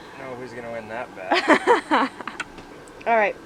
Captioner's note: laughing